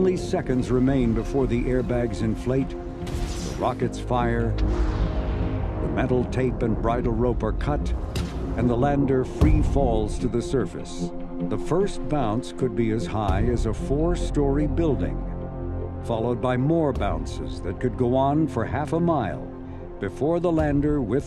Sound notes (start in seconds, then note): 5.2 rocket roaring; 7.7 soft bang